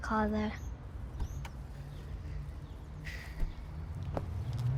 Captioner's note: door clicking